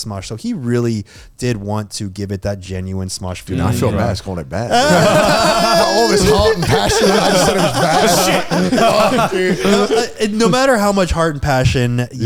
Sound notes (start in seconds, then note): 4.7 laughing